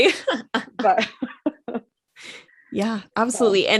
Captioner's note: both Chuckle